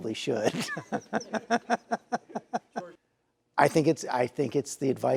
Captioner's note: host laughs